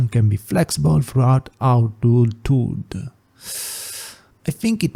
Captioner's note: exhale